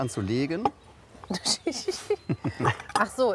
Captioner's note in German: lacht